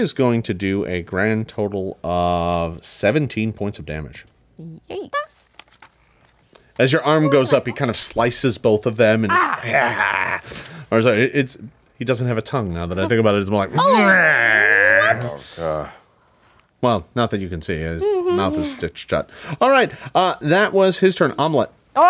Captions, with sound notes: And he is going to do a grand total of 17 points of damage. - Yikes! As your arm goes up, it kinda slices both of them, and (screams). I'm sorry, he doesn't have a tongue, now I think about it, it's more like, (screams). - Oh, what? - Well, not that you can you can see his mouth is stitched shut. All right, that was his turn, Omelette.